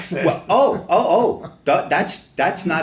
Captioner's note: laughs